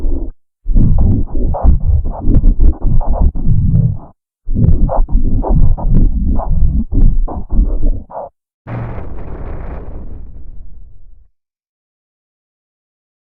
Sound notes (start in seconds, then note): 8.7 Supernatural 3D Giga Shadow Windows XP Shutdown Sound